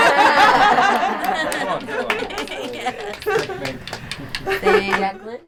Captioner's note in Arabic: يضحك ويصفق